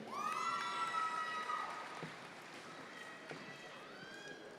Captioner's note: audience members cheer